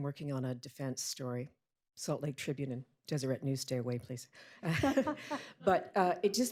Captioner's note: laughter